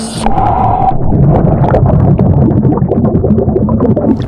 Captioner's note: water bubbling